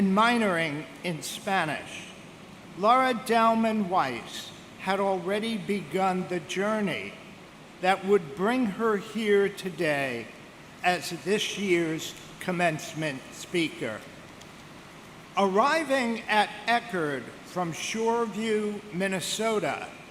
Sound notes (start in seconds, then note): none